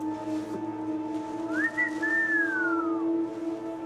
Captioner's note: whistles